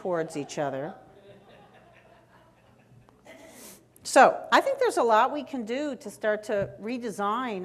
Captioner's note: laughter from the audience